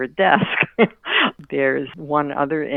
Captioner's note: laughing